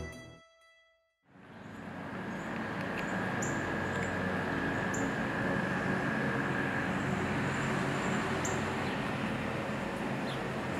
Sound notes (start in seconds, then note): 2.9 birds chirping